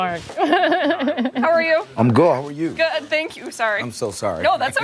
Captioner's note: laughter